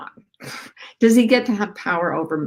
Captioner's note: chuckles